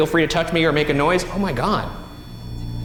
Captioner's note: REM-POD beeps